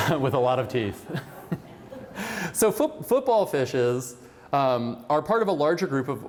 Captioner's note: laughter